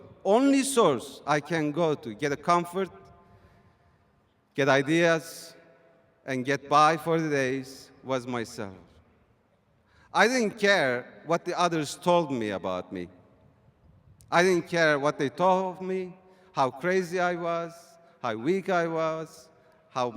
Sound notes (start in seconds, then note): none